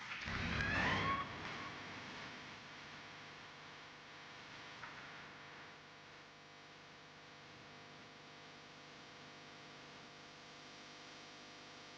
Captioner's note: applause